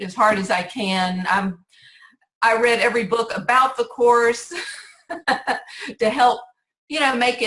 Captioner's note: laughs